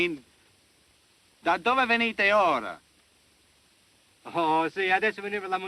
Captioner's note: speaking italian